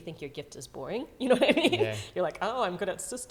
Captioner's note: laughs